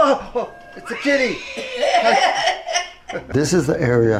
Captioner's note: laughing